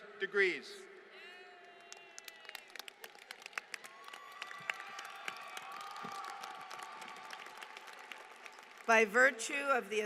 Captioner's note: applause